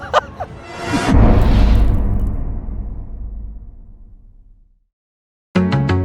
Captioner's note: impact